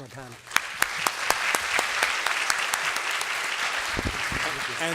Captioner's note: applause